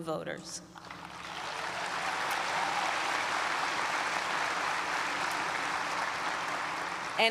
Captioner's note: applause